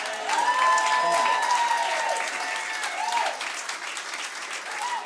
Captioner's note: cheering and applause